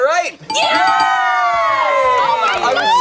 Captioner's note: all cheer